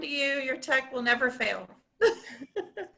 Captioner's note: laughs